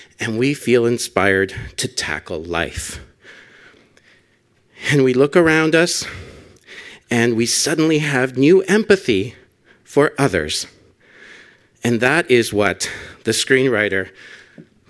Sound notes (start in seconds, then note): none